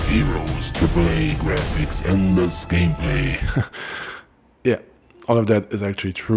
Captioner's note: laughs and then suddenly stops